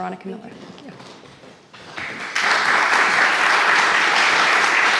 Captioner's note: audience applauding